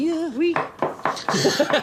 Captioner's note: banging; speaks in foreign language; laughing